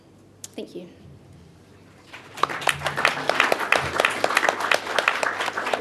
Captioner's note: audience applause